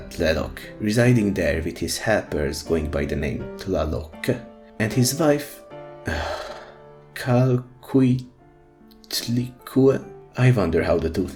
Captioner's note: sigh